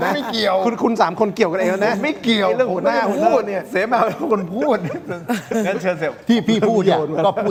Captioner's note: laughter